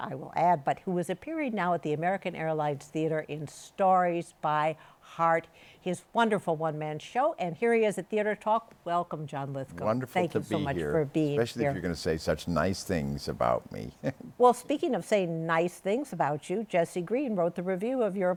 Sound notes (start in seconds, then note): 13.6 chuckles